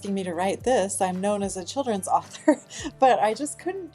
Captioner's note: laughs